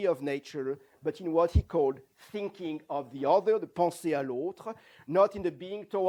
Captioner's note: non-english